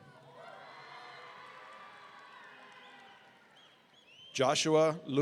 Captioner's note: audience cheering